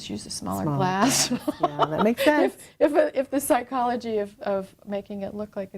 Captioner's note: laughter